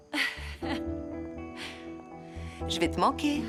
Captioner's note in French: rires